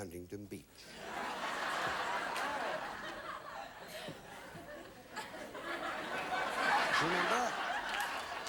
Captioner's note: audience laughing